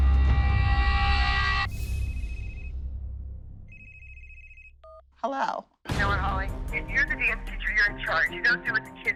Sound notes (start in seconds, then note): 1.3 phone rings; 3.7 phone beeps